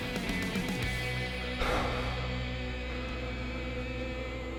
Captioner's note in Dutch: Respirando en pánico